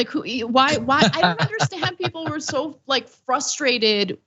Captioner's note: laugh